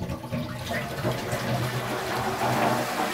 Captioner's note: muffled splashing